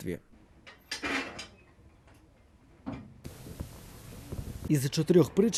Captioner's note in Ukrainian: Кидають дрова у котел